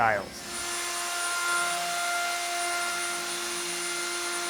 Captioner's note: saw whirring